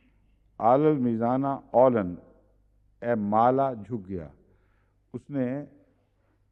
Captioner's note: Arabic